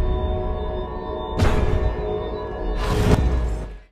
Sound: vault slamming shut

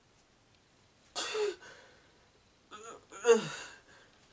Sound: horrified struggling

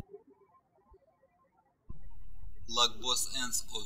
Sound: birds chirping

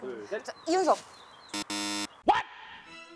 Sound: beep

